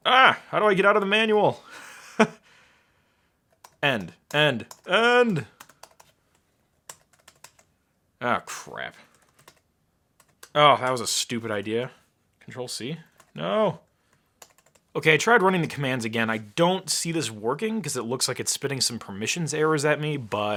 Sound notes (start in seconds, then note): 1.7 laughing